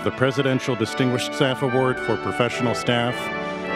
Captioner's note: none